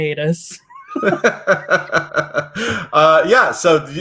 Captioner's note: laughs